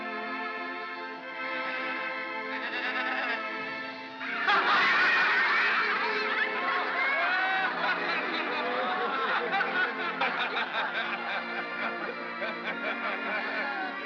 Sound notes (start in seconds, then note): 2.5 sheep baa; 4.2 all laugh; 4.2 soft music